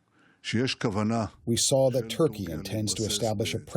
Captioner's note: through translator